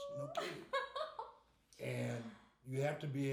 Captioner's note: laughing